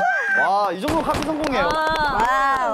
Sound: bang, bang

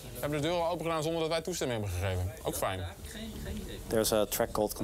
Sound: speaks in foreign language

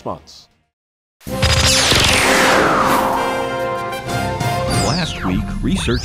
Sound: sound Effects

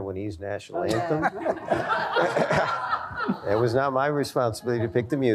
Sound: laughter

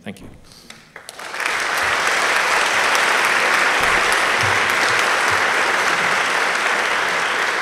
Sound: applause

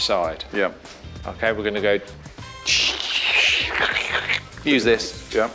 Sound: crackle sound

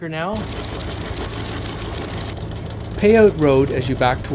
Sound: chain clanking

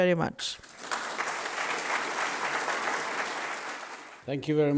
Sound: audience applauding

